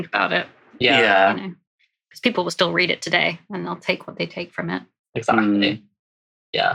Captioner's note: laughs